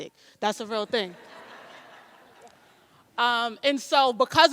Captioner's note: audience laughs